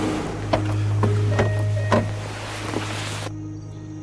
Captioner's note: truck doors open